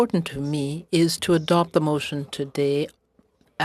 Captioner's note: speaking French